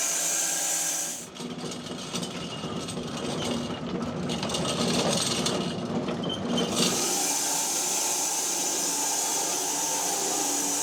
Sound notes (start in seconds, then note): 0.0 saw rattling; 6.7 saw whirring